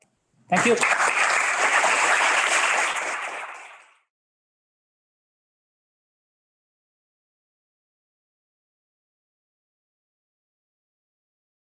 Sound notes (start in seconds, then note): 0.5 students applauding